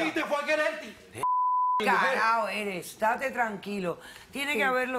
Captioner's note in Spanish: Bip